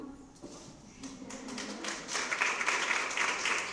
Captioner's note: applause